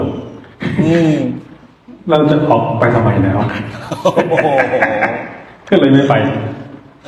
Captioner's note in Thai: เสียงหัวเราะ